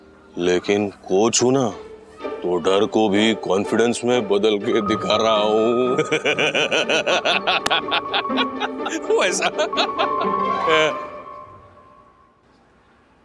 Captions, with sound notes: But I'm the coach. So, I am pretending to be confident. [laughs] Okay.